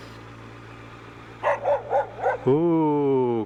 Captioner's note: woof! Woof! Woof!!